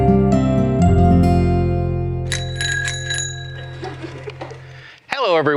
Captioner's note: bike Bell Rings